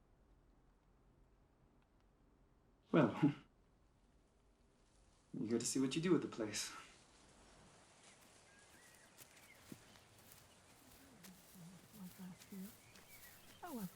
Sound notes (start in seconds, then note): 8.1 birds singing; 10.8 group murmuring